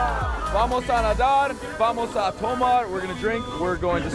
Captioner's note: speaking Spanish